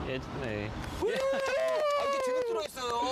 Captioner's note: applauds